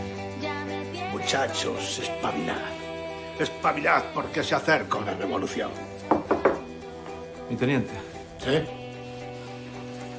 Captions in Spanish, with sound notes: -Muchachos, espabilad, espabilad porque se acerca una revolución. (Llaman a la puerta) Mi teniente. -¿Sí?